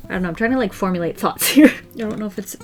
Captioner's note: laughs